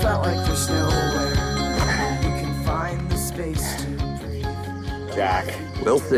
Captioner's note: phone ringing